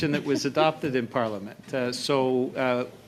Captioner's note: laughter